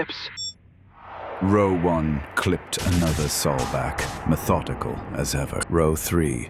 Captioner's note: weapons firing